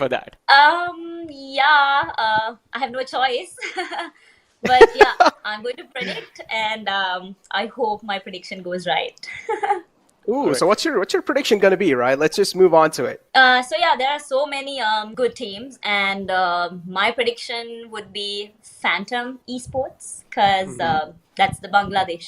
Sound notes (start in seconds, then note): 4.6 laughs